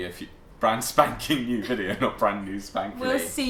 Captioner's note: laughter